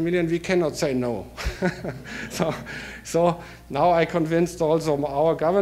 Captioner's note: laughter